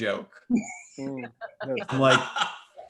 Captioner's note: laughs